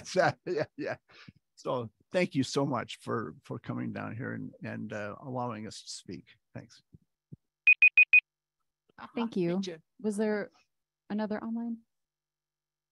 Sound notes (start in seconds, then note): 0.0 chuckles; 7.6 timer beeping